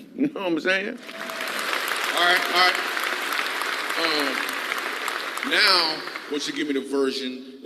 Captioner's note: applause